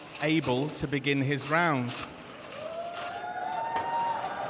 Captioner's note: cheers and applause